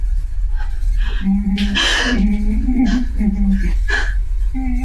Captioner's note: tense horror music; something humming